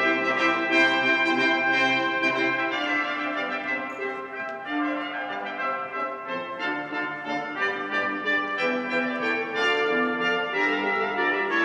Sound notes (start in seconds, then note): none